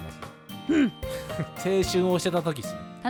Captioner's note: angry sounds